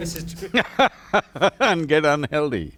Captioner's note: laughs